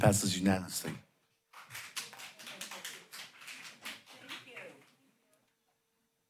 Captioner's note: applause